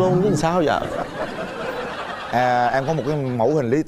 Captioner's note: laughter